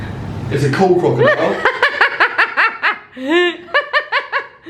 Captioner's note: laughing